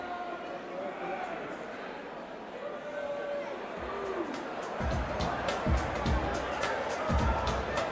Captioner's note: crowd chatter